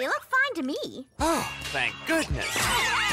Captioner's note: relieved sighs